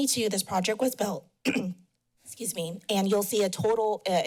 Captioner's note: clears throat